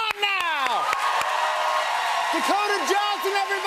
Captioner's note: cheers and applause